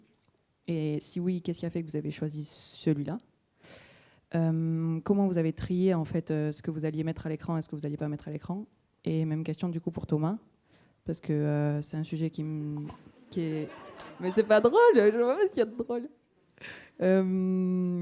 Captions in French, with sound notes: et si oui, qu'est-ce qui a fait que vous avez choisi celui-là ? Comment vous avez trié, en fait, ce que vous alliez mettre à l'écran, et ce que vous n'alliez pas mettre à l'écran, et même question du coup, pour Thomas, parce que c'est un sujet qui est... [rires] Mais ce n'est pas drôle ! Je ne vois pas ce qu'il y a de drôle !